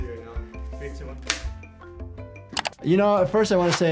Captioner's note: rubber band snaps